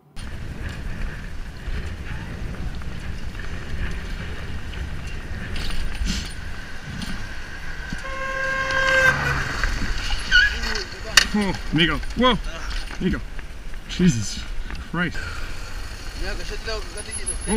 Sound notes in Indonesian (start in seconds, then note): 7.9 suara klakson mobil; 10.6 suara decitan motor; 12.6 suara orang bertengkar